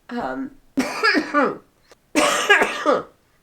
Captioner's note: coughs